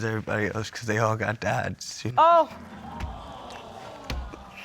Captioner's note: audience exclaims